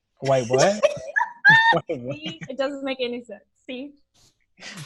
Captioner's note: laughs